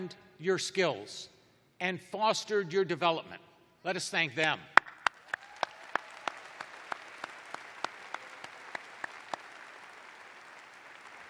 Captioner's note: applause